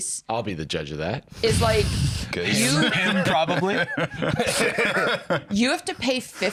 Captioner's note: both laughing